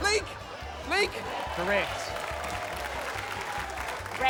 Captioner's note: cheering, applause